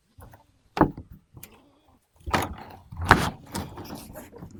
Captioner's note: plastic banging